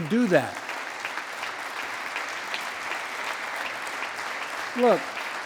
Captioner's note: applause